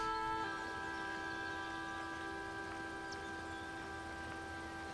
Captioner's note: birds chirping